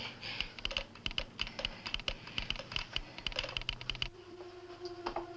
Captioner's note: telegraph machine clicking; gentle dramatic music